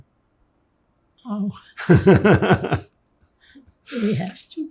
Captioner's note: laughing